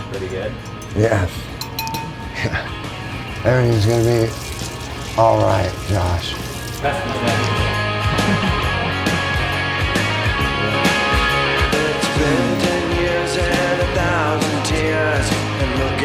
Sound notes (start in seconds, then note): 7.3 people chattering; 7.4 rock music